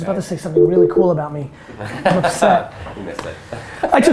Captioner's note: group laughter